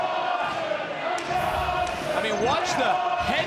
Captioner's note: chanting